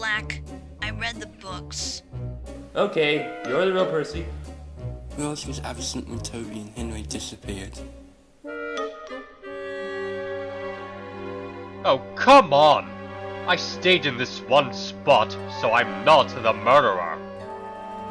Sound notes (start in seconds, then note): none